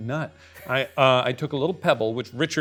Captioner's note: chuckling